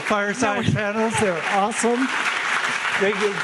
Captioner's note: audience clapping